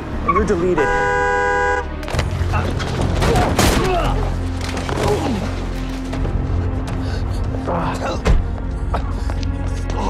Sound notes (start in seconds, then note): 0.3 horn blaring; 3.2 gunshot